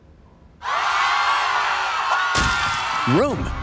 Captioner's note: senators screaming